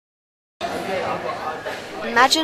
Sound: background chatter

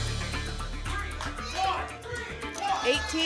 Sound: audience shouting numbers

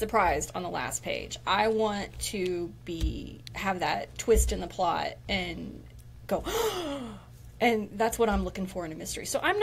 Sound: gasp

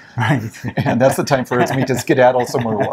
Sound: laughs

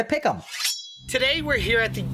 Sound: knives slicing

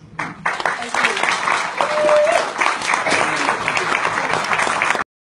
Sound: applause

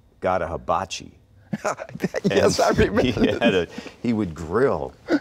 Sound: laughing

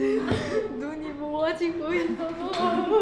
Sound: sobbing

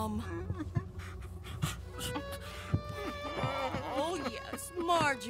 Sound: Bertram crawls to Marjorie while sobbing

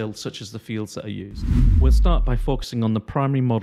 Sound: whooshing

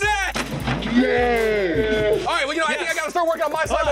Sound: slowed down yelling

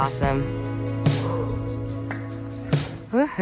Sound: panting

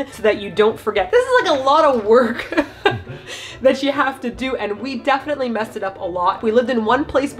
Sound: laughs

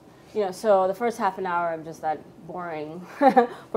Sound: laughs

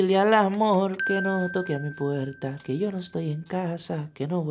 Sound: singing in foreign language; positive beep

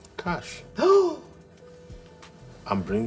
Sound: Jenny gasping

